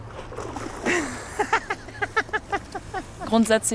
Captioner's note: laughter